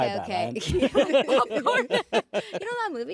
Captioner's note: laughter